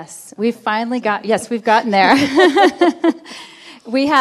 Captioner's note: laughing